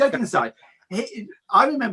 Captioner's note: laughs